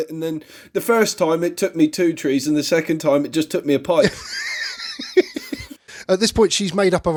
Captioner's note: laughs